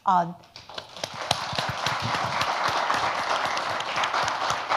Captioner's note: audience applauds